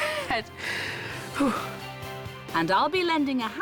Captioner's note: exhales sharply